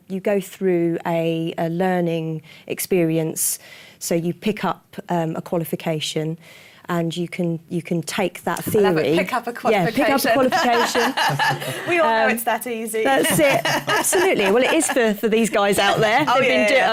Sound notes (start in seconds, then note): 10.0 laughter